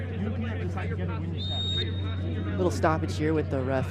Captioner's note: whistle blows